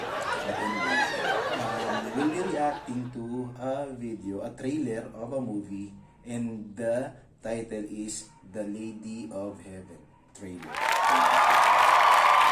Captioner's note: applause